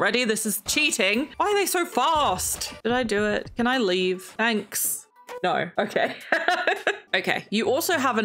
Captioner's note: laughs